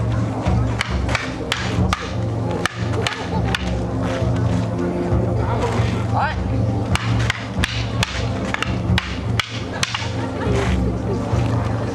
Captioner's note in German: Kampfgeräusche